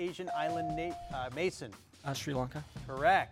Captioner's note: bell dings